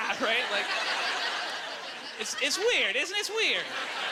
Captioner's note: audience laughter